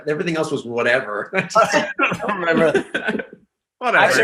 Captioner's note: group laughing